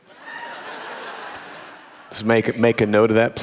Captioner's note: audience laughing